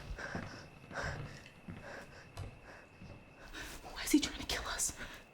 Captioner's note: Claire panting